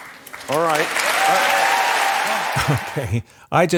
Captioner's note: audience applauds